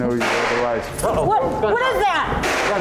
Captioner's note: gun fires